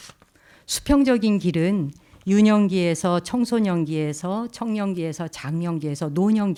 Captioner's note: speaking in Korean